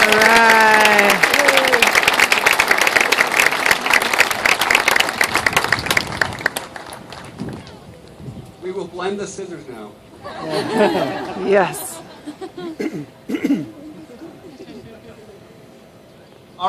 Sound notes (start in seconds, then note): 6.1 more cheers; 15.3 laughter